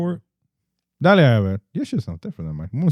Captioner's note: speaking Spanish